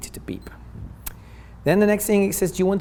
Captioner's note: beep